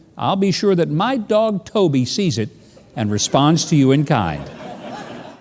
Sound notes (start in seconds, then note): 3.0 audience laughing